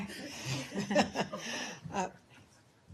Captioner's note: laughter